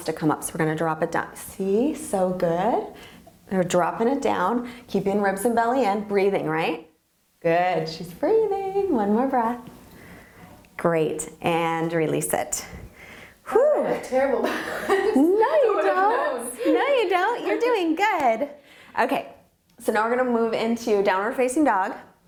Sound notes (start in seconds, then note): 14.5 laughs